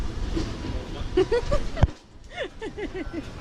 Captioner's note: giggling